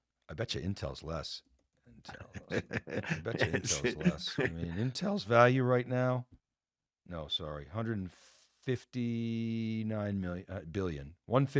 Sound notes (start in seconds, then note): 2.1 laughs